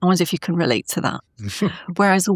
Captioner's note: laughing